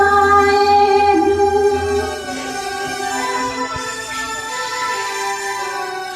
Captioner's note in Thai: ปรบมือ